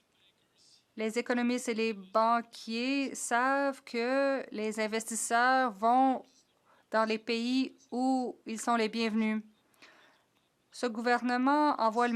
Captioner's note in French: voix de l'interprète